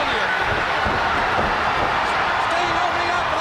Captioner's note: crowd cheering